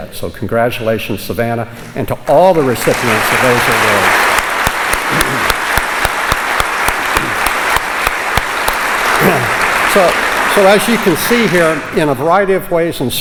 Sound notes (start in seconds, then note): 4.4 applause